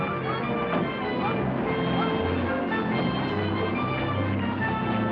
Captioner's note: car door thuds; car engine revving